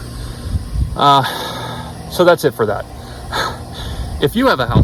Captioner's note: sighs; chuckles